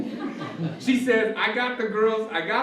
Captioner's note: laughter